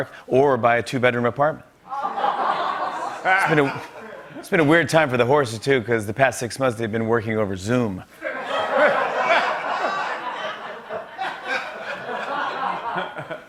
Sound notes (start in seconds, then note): 1.9 laughter, groaning; 8.2 laughter